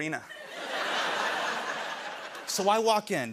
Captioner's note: laughter